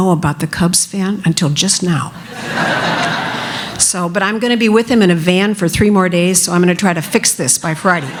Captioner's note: laughter